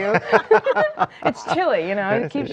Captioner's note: laughing